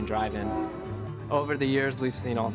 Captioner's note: horn honking